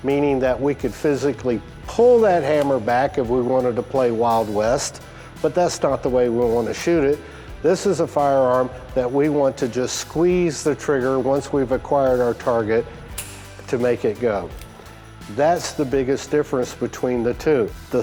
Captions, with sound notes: meaning that we could physically pull that hammer back if we wanted to play Wild West. But that's not the way we want to shoot it. This is a firearm that we want to just squeeze the trigger once we've acquired our target, (gun clicks) to make it go. That's the biggest difference between the two.